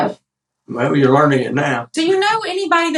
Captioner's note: laugh